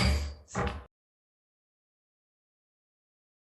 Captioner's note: gavel banging